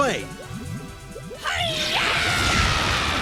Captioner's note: topaz yells